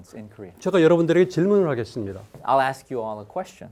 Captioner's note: speaking in Korean